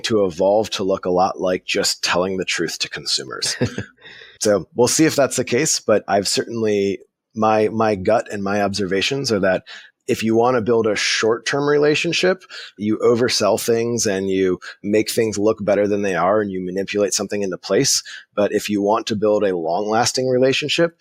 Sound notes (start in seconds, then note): 3.3 laughing